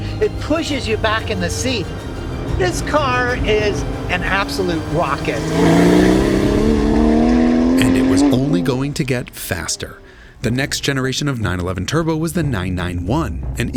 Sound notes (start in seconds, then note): 6.0 engine revs